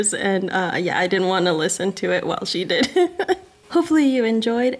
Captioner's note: laughs